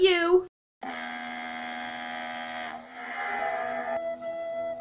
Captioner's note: ship noises